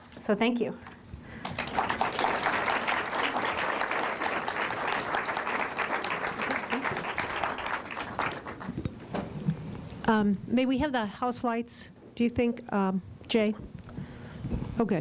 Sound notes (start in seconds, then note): 1.4 applause